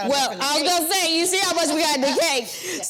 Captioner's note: Vernee laughs